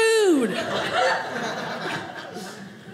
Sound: audience laughing

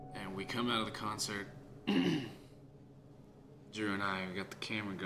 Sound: clears throat

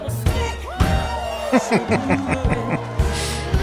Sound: laughing

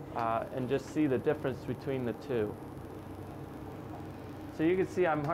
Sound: clicks and whirs

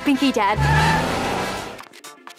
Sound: tire screech

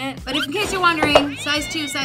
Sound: clash; cat meowing

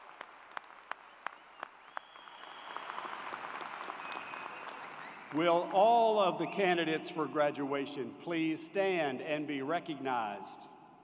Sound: applause

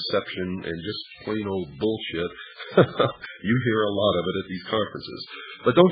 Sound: laughs

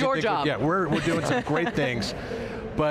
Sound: chuckles

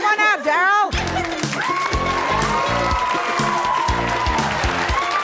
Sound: cheering and applause

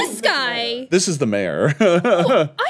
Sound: laughs

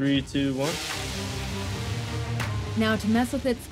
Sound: dramatic music; rotors humming

